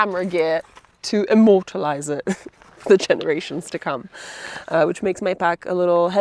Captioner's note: laughs